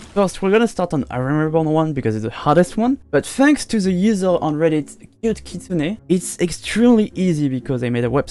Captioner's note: SPLASH UwU